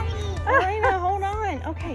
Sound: laughing

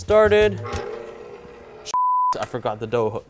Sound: mixer whirring; beep

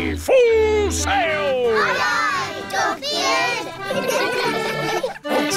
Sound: giggling

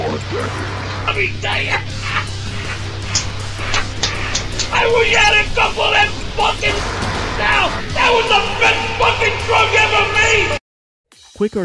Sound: quad noises

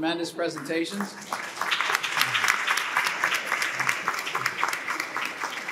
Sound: audience applauding

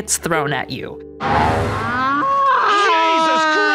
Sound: cow moos

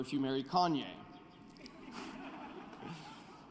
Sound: laughter

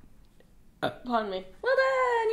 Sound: burping

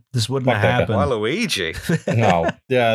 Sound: laughter

